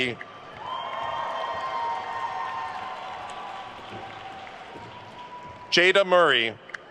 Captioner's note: attendees cheering and applauding